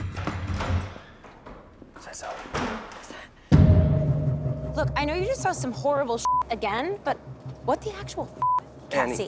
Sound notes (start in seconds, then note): 2.0 door clicking; 6.2 beeps; 8.1 beeps